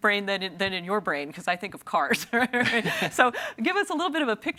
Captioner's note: laughing